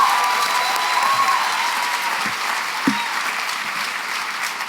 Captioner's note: applause, cheering